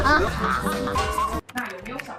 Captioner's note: laughing in musical scales